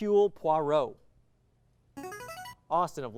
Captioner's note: signaling device tone